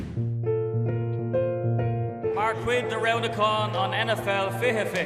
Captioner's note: speaking irish